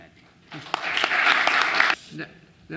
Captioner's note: applause